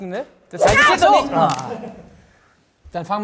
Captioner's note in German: Schrei